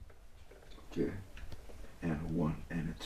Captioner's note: none